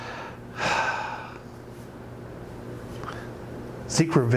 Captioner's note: sighs